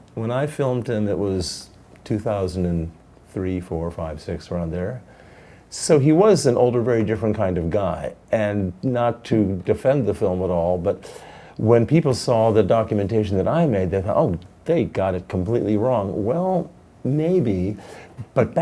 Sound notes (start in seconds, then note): none